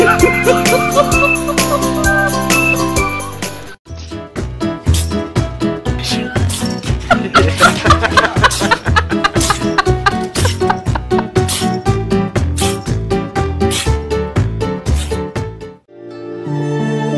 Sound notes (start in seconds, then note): 0.1 laughter; 5.4 sneeze; 10.2 laughter; 12.2 sneeze